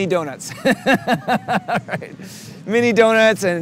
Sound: laughing

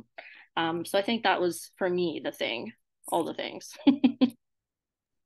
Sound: chuckles

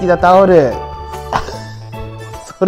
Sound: laughs

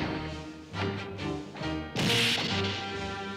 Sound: crashes

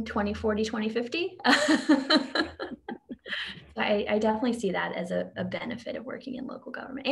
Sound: laughs

